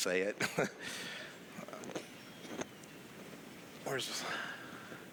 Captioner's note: laughs